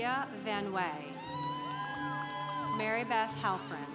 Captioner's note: congregation applauding